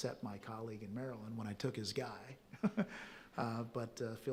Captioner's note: chuckles